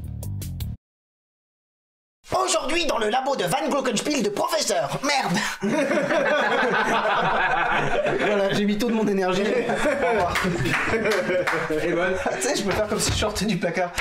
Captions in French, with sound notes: Aujourd'hui dans le labo de Van Glückenspiel, de Professeur . Merde. (Rires) Voilà, j'ai mis toute mon énergie. Au revoir. (Rires et applaudissements) Tu sais je pourrais faire comme si je sortais du placard.